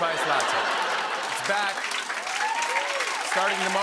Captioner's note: laughter and applause